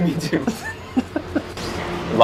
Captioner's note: giggles